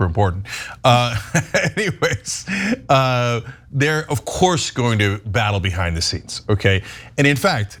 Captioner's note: laugh